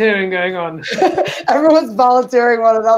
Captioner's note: laughs